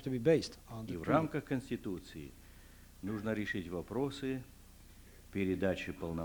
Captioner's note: non-english speech